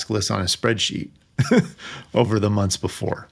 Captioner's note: laughing